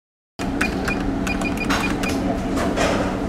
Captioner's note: beeping